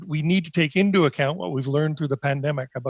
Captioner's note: speaking in French